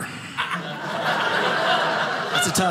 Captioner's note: audience laughing